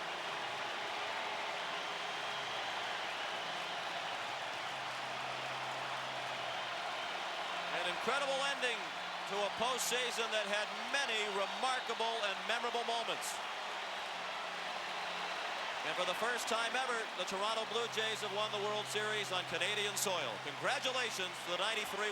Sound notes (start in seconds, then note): 0.2 applause; 0.5 cheering and Applause; 6.6 applause; 6.9 cheering and Applause; 10.3 applause; 10.6 cheering and Applause